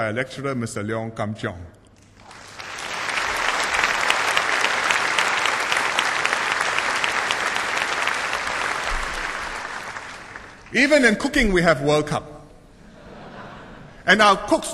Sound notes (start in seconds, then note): 2.0 applause